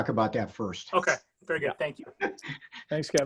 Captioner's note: laughs